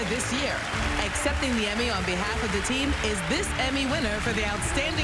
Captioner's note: applause